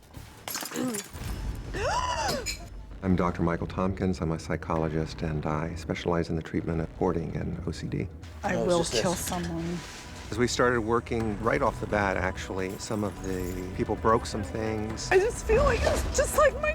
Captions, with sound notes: [glass breaks] [gasps] I'm Dr. Michael Tompkins. I'm a psychologist. And I specialize in the treatment of hoarding and OCD. I will kill someone. As we started working, right off the bat, actually, some of the people broke some things. I just feel like it was just like my kids,